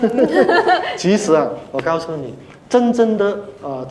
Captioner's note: laughter